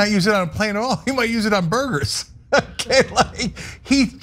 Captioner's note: laugh